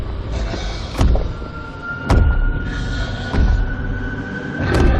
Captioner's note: zombies growling; ominous thundering footsteps